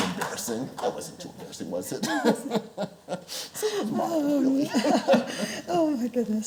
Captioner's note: chuckles